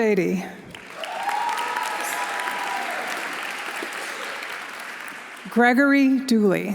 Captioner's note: audience applauding; audience cheering